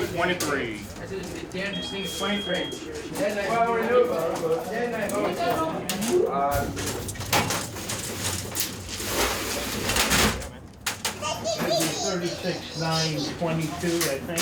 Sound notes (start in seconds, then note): 1.7 electronic beeping; 6.6 crates rattling